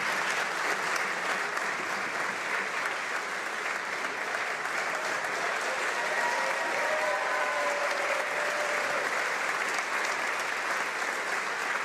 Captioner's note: some Applause